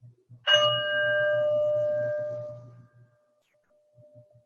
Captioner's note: bell Rings